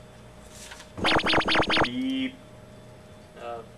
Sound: electronic Sapping Sound

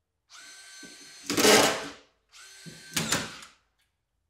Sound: nail gun sounds

